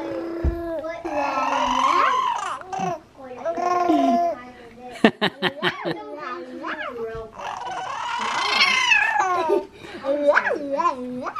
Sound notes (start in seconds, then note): 5.2 laughing